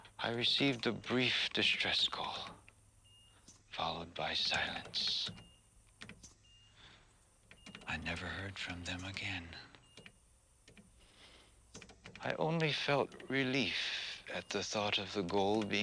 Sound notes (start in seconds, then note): none